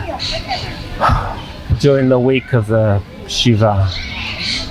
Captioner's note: sighing